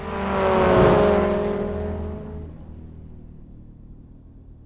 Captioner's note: car engine rumbling